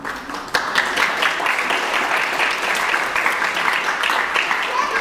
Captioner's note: audience clapping